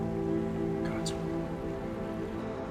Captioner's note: whispers